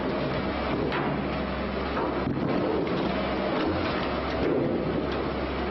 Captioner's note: gevezelik ve vurma